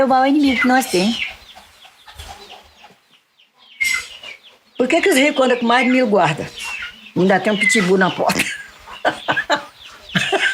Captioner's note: laughs